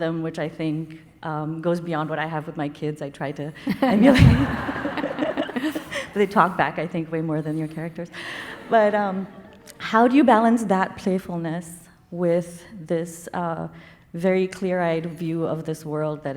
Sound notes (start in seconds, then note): 3.6 Arundhati laughing; 3.7 audience laughing; 8.4 audience laughing